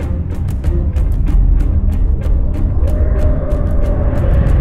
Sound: awful roaring

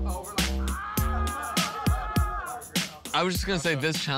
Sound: shouts

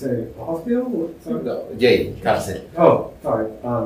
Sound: spanish

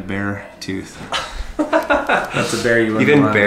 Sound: laughs

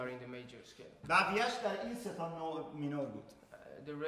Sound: speaking in farsi

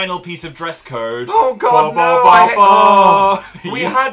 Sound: sound effect noises

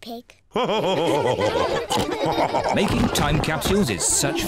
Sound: all laugh

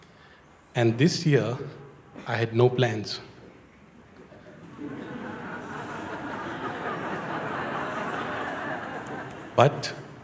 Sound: laughter

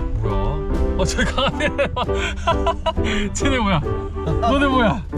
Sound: excited

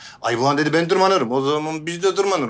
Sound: none

